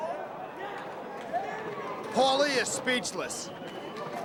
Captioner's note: crowd chatter